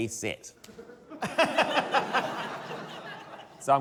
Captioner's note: laughter